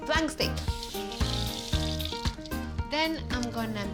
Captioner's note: splashing